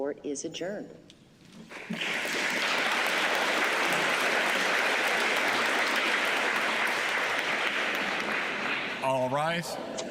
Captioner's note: applause